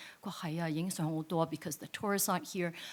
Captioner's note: speaks in foreign language